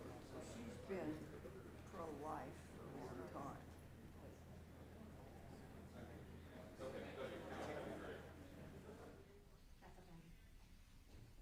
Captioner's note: indistinct chatter